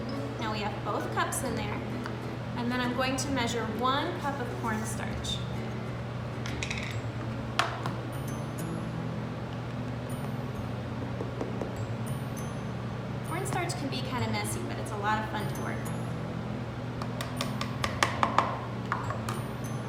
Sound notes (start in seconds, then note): 11.0 tapping container on measuring cup; 17.4 measuring cup hitting pan